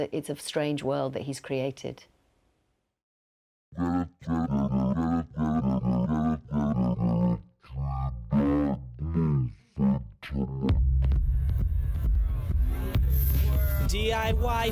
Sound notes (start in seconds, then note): 2.8 distorted voice of a man talking